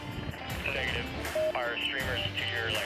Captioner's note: man On Radio